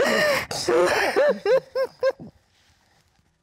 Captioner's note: both crying